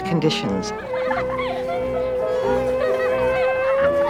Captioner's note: laughing